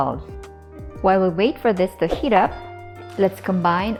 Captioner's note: bowl thuds